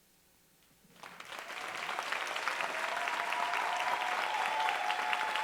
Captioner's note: audience applauding